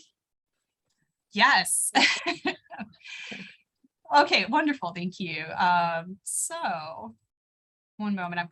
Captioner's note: laughter